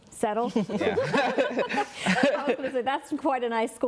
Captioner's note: all laughing